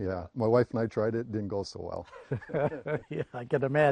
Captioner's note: laughter